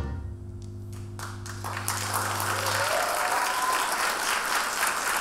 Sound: audience applauding

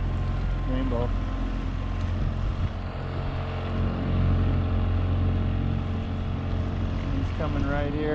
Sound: boat engine idling

